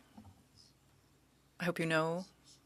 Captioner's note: speaking French